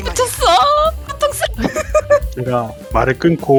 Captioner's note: laugh